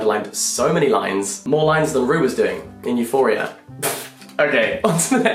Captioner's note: laughs